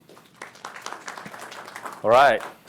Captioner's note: audience applauding